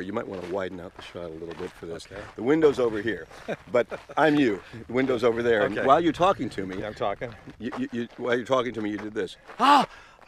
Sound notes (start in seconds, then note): 2.6 laughing; 9.5 gasps